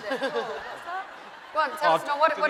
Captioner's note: laughing